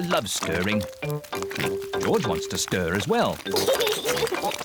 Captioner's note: oinks; giggles